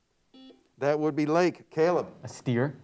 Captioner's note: buzzer beeps